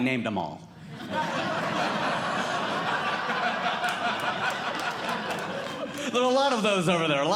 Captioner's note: audience Laughing